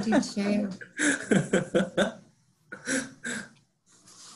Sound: laughing

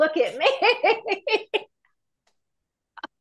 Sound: laughs

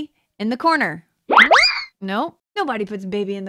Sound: playful whistle

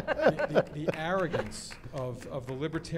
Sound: laughter

